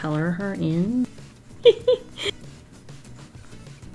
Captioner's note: laughs